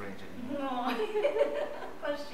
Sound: laughter

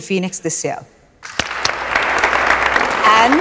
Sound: clapping

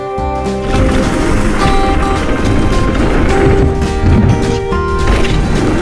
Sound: tires rumbling on the ground

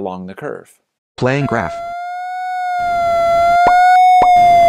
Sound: computer Voice; whistling and popping

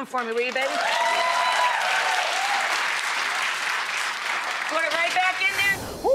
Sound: crowd cheering

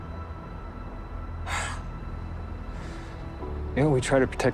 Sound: sighs

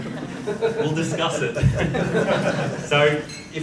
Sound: audience laughs

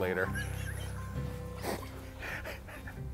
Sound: laughs

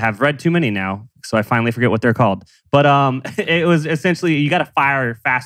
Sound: laughs

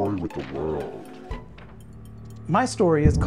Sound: paper rustling

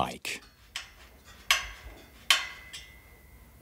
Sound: cracking

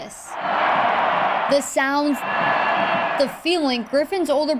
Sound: crowd noise

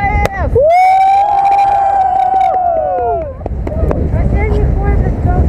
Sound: sounds of joy

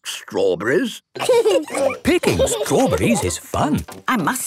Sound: laughing

